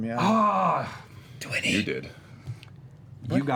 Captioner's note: whispering